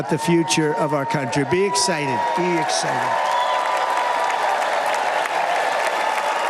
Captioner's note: cheers and applause